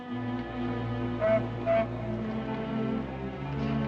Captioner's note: ship horn